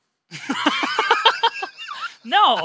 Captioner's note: laugh